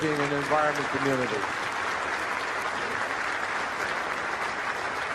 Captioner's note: crowd applauding